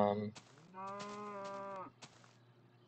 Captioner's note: cow moos